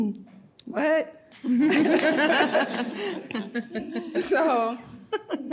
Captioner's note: laughs